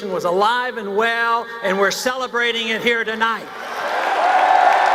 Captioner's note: cheers, applause